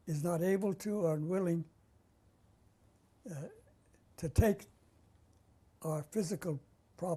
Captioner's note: pauses for 3 seconds